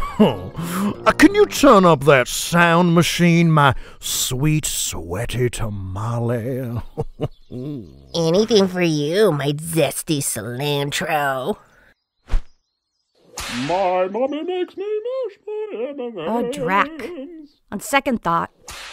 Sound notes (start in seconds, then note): 6.1 laughs; 13.3 whip cracks